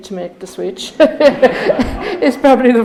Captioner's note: audience laughing